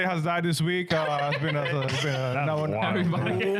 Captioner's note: laughing